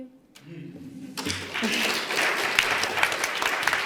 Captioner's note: applause